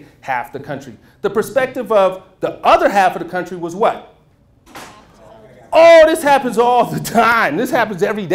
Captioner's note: murmurs